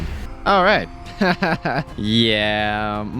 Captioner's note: laughs